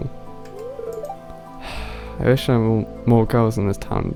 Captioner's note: sigh